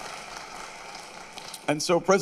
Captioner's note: applause